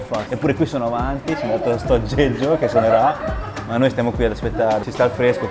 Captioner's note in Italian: risate